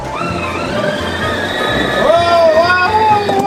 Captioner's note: sled engine driving